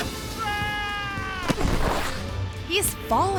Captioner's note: thuds and screams; thuds